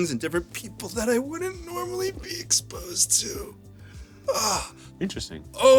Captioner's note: groans